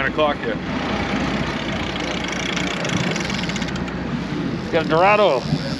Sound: reel cranking

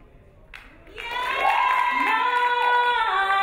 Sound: crowd applauding

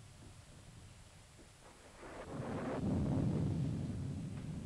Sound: thunder rumbling

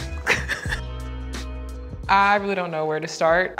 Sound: chuckles

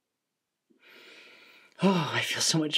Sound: deep inhale

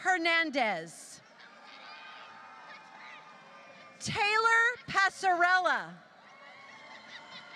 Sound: laughter

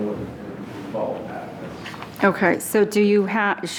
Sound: speaking off microphone

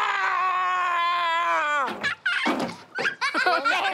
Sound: kids laughing

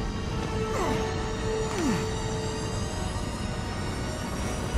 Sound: wincing

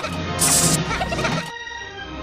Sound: Minions Laughing

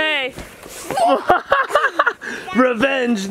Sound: laughs

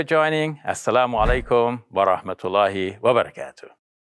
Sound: speaks arabic

